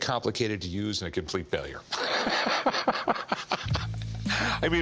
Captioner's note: laughing